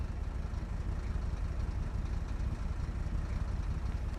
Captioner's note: car engine humming